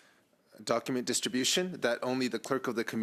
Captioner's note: speaking French